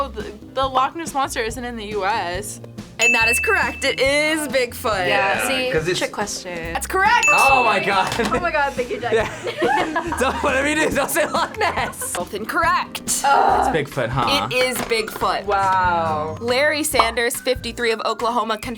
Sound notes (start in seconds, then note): 9.0 both laugh; 10.6 laughs